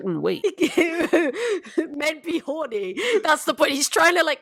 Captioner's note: laughs